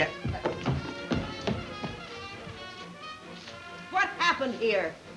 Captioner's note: footsteps plodding